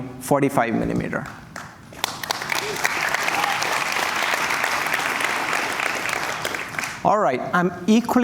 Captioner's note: applause